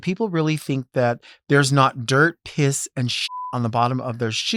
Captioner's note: beep